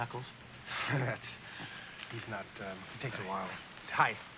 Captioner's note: chuckles